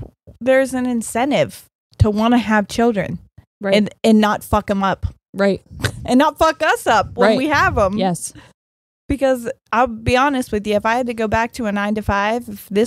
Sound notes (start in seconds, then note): none